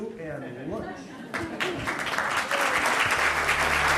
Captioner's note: laughter; clapping; mellow music